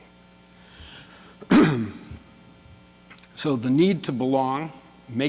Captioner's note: clears throat